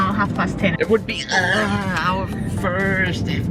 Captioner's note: man groans